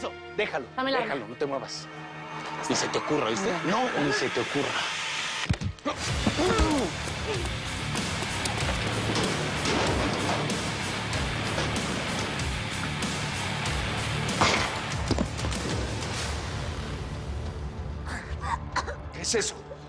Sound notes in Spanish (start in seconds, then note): 14.3 Disparo; 18.1 Altagracia tose